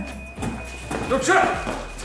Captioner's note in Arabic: يصدر صوت من مستشعر المرآب